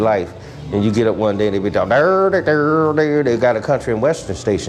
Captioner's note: imitates guitar